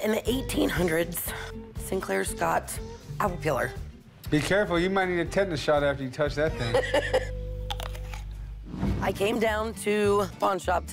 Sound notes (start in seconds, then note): 6.5 laughter; 7.6 apple crunching